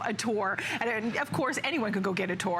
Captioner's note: laughter